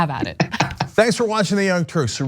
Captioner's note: laugh